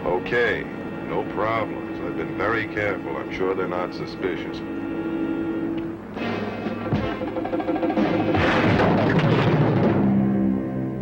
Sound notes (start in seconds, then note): 6.8 punch thuds